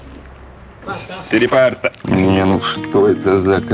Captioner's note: speaking Italian